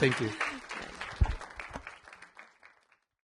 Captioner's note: audience applauding